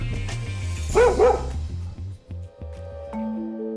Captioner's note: dog barks